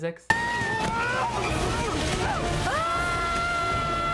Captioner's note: shouting